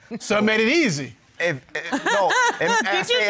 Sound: laughs

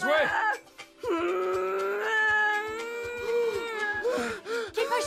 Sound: Maggie grunts

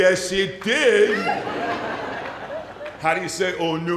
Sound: laughter

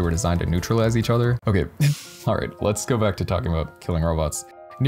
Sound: exhale

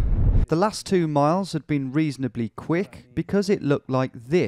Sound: voiceover

